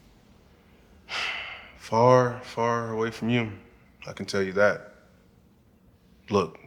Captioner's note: sighs